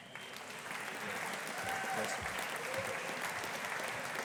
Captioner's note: audience applauding